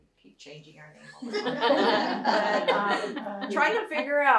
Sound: laughter

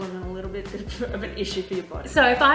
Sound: giggles

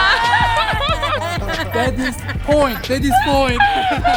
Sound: laughs

